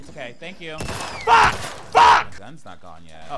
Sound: guns blasting

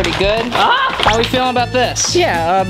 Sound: exclaims

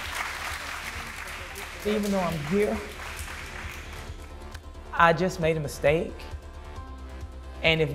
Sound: inmates applaud

